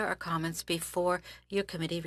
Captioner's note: speaking French